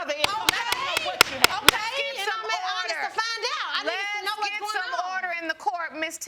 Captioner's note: arguing continues; gavel banging